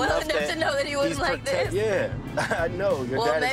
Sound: laughs

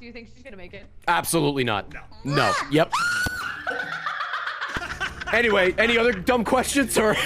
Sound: screams

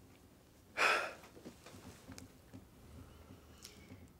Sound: gasping

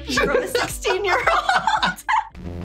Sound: laughter

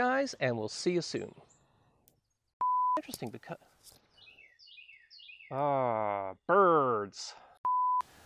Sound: birds tweeting

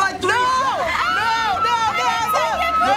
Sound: screams

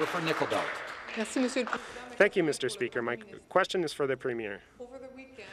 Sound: some Applause

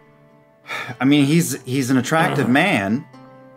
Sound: sigh

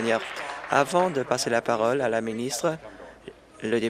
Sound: applause

